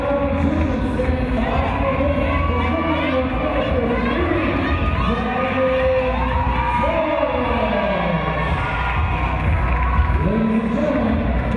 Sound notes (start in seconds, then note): 3.4 distorted audio; 9.2 clapping; 9.4 cheering